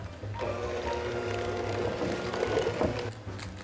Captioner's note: mixer mixing